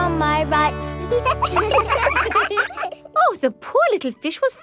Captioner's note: children laugh